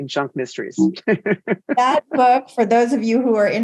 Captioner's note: laughs